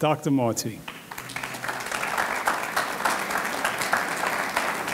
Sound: audience clapping

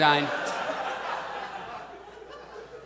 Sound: audience laughs

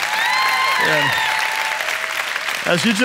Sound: congregation applauding

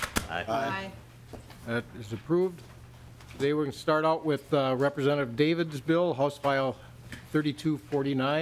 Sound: chorus of ayes

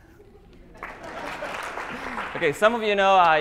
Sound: laughter, applause

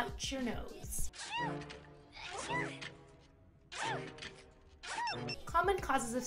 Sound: Kim Possible sneezing again... and again

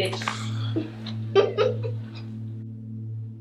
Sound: Fiona laughing

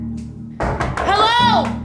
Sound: door banging

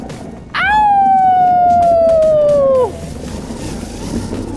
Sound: howling baby cheetah

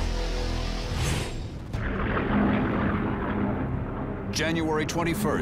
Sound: plane roaring

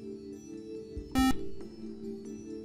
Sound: buzzer

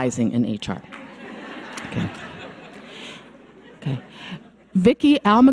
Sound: audience laughs

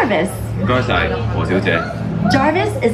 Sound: speaks foreign language

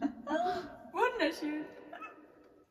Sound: laughs

